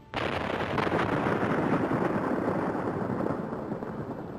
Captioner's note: dynamite exploding